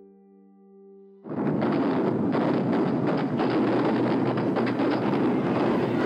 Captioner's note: gunfire